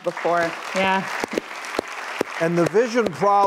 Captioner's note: audience applauds